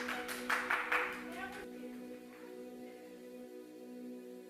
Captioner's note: applause